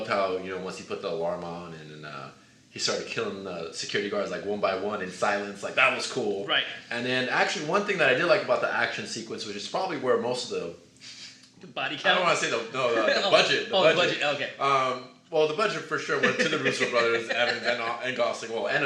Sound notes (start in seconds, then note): 12.3 laughs; 16.0 laughs